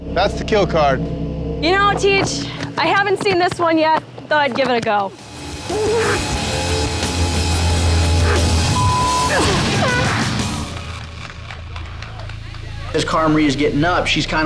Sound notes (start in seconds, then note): 5.1 exciting music; 9.0 beeping; 11.6 all clapping